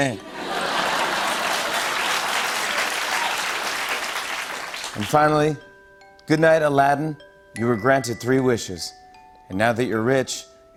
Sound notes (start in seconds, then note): 0.1 laughter and applause; 2.3 cheers and applause